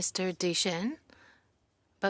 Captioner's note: speaking in French